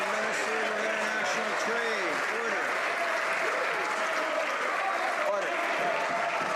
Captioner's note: some Applause